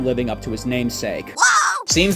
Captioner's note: Bowser Jr. pain noises